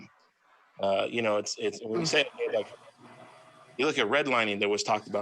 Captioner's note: faintly speaking